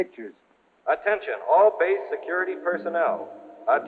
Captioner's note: man on PA